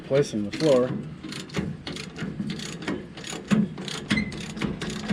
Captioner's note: ratcheting